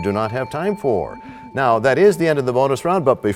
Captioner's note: bell rings, time expires